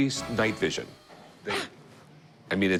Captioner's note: laughs